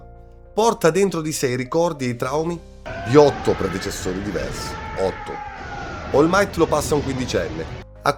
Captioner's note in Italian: urlo